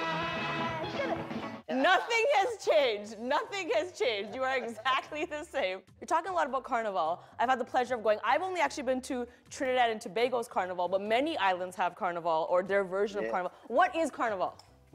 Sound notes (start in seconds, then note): 1.8 laughs